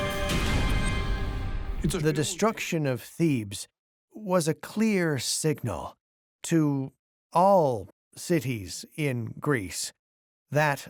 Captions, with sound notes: [music fades] [in German] The destruction of Thebes was a clear signal to all cities in Greece